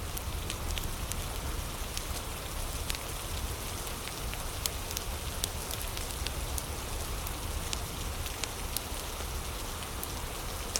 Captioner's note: fire crackling